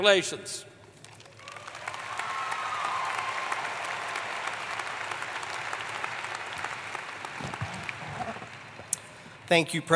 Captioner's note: applause